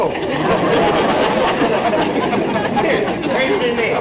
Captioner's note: audience laughter